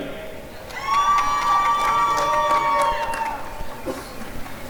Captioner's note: applause and cheering